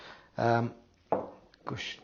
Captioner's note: glass taps